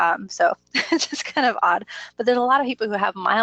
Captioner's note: laughs